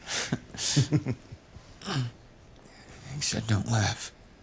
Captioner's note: Slugger laughs